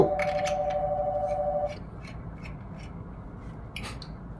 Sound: phone ringing

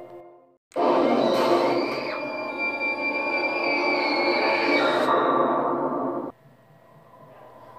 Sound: scream

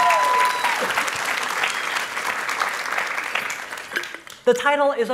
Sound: applause

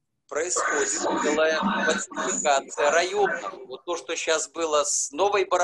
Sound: speaking foreign language

